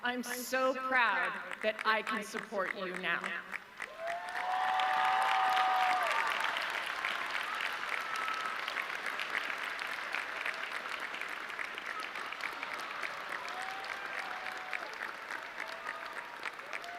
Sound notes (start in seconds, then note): 4.6 audience cheering; 13.7 audience clapping